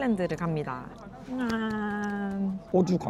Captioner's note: seal-like clapping lol